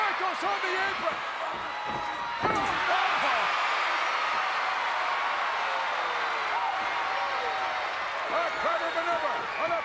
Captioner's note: applause